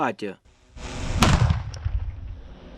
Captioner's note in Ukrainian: лунає вибух